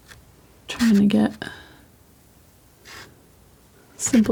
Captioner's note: scratching